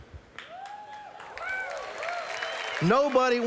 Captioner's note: applause